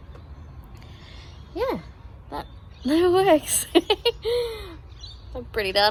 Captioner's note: giggles happily